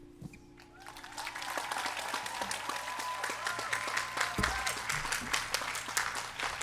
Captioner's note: crowd clapping; crowd cheering